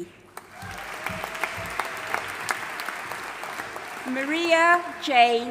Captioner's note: audience applauding and cheering